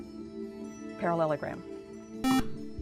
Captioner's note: buzzer